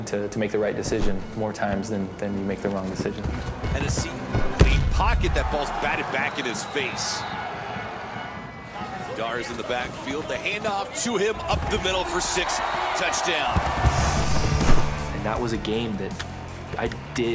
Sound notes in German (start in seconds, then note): 9.4 Kommentatorenstimme auf Englisch; 14.1 Lockere Rockmusik